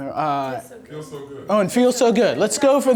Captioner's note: voiceover